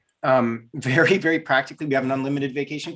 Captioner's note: giggles